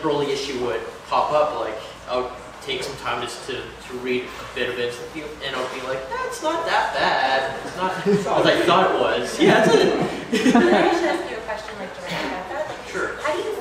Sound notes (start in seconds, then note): 9.3 laughter